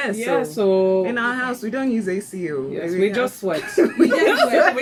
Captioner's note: laughs